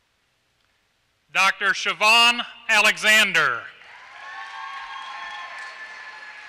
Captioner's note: applause